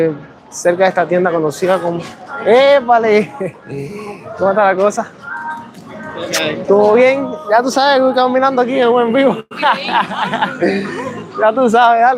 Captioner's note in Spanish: risas